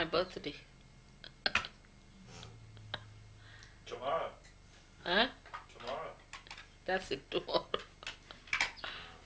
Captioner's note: shri mataji laughs